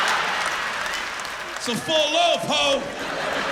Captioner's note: laughter